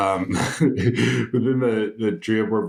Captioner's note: laughs